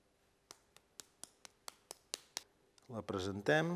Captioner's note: slapping noises